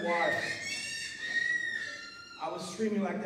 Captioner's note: child crying